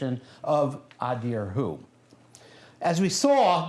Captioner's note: non-english speech